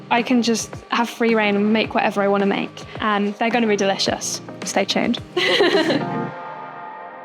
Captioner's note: laughs